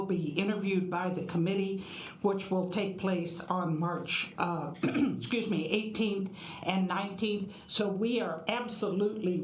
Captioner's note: cough